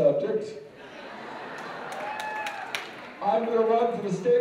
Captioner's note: laughter and applause